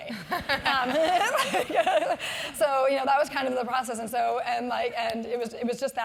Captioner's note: laugh